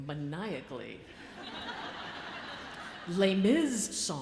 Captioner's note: audience laughs